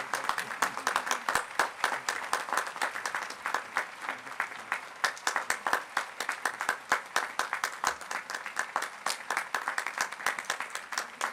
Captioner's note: applause